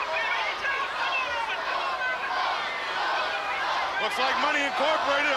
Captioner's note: crowd chants